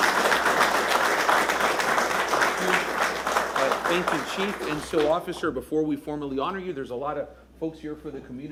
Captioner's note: applause